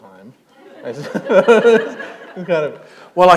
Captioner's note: laughter